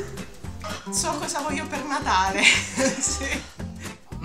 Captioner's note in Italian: ironico, ride